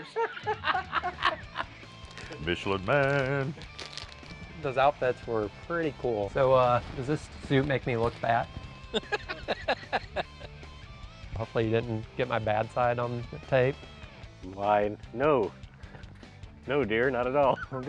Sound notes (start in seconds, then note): 0.0 both laughing; 8.9 laughter